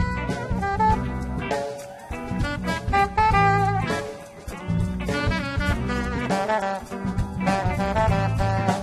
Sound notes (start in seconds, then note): 1.4 audience cheering; 1.7 slow and intense funk music